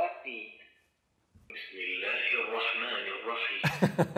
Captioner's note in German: Arabisches Gebet